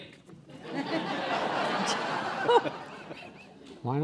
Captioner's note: laughing